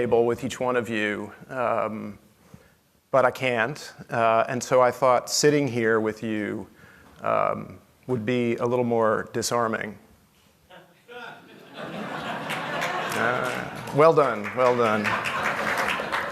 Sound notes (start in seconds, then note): 11.4 laughter